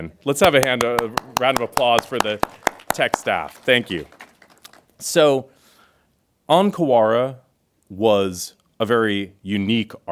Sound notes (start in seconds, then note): 3.7 crowd claps